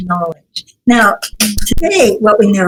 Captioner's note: claps hands